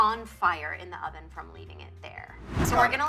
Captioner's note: air whooshing